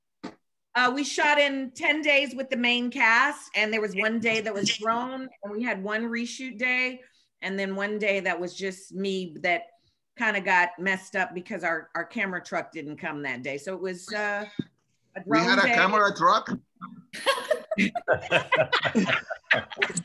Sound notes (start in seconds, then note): 17.1 laughter